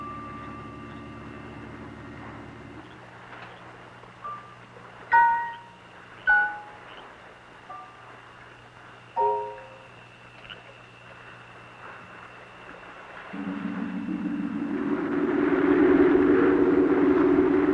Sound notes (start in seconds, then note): 13.3 water bubbling